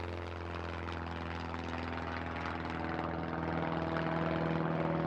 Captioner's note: helicopter